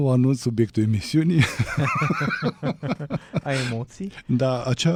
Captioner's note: laughter